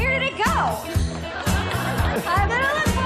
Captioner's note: upbeat music; audience laughing